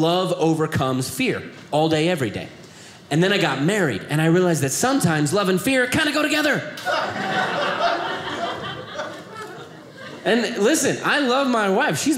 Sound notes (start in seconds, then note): 6.8 audience laughing